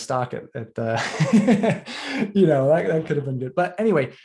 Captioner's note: laughter